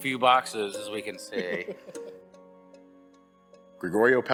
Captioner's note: laughing